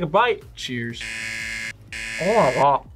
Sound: buzzer

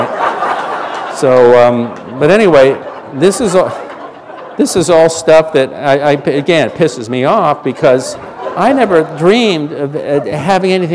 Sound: laughter

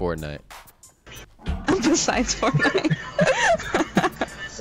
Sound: laughing

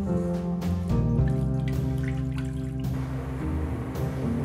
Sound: water pouring

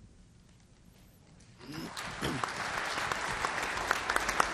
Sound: applause

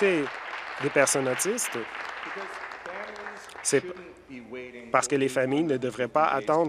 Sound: some Applause

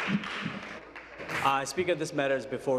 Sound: applause

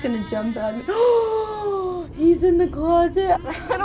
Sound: gasps

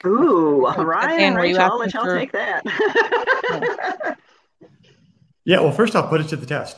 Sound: laughs

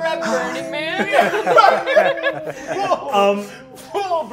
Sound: all laughing

